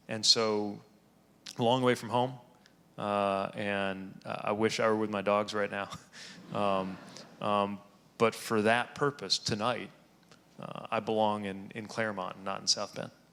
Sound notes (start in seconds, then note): 6.3 audience laughing